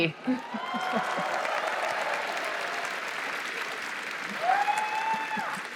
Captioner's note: applause